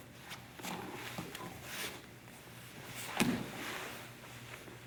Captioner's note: soft shuffling; soft thudding